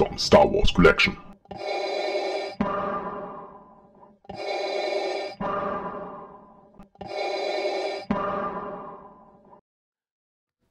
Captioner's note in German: Darth Vader Atemgeräusche